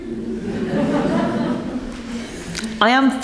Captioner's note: members laugh